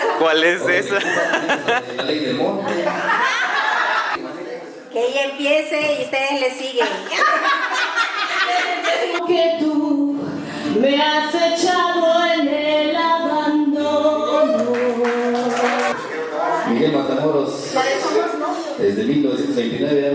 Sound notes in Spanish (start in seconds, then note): 14.5 aplausos